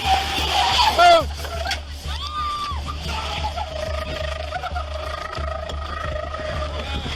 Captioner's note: tires screeching